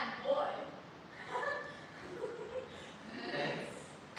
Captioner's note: giggles